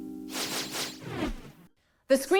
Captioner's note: transition sound